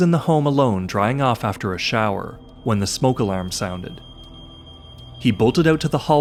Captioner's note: alarm beeping